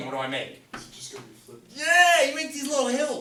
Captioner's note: voiceover